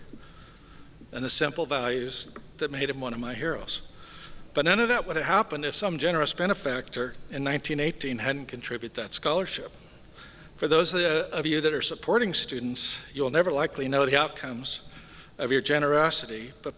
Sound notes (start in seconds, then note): none